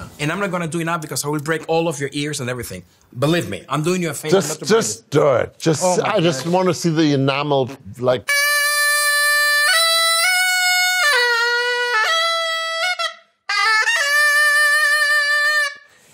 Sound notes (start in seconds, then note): 8.3 high-Pitched Screeching